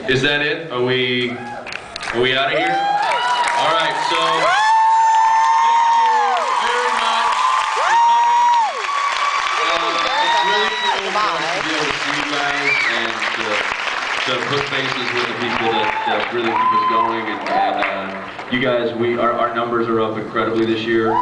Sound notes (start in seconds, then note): 3.0 cheers, screams; 7.5 cheers, screams; 8.5 cheers, screams, applauds; 11.9 cheers, screams, applauds; 14.9 cheers, applauds